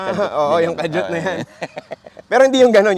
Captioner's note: laughs